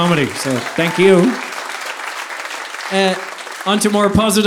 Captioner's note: audience applauding